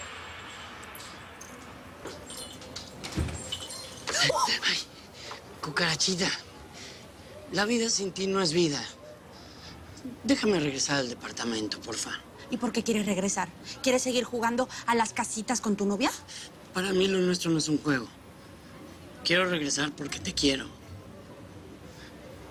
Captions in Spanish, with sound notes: [Grito ahogado] - CUCARACHITA... LA VIDA SIN TI NO ES VIDA. DÉJAME REGRESAR AL DEPARTAMENTO, POR FA... - ¿Y POR QUÉ QUIERES REGRESAR? ¿QUIERES SEGUIR JUGANDO A LAS CASITAS CON TU NOVIA? - PARA MÍ ESTO NO ES UN JUEGO. QUIERO REGRESAR PORQUE TE QUIERO.